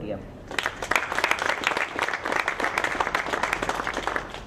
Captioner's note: audience clapping